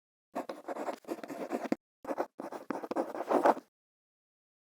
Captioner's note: quill scratching